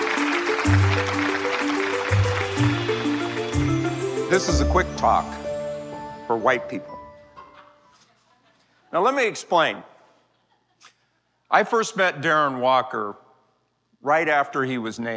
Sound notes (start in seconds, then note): 0.0 audience clapping; 7.9 laughter